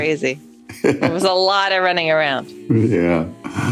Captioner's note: laughs